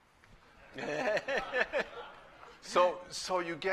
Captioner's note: laughter